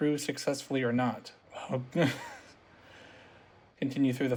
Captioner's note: nervous laughter